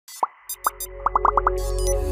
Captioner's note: ethereal electronic music; bubbles popping